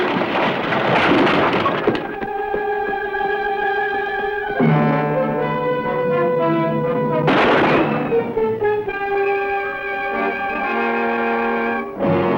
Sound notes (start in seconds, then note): 3.1 dramatic music; 7.2 gunshot